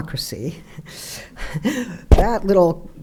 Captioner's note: laughing